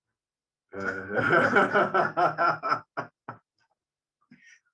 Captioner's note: people laughing